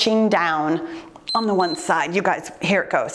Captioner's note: timer beeps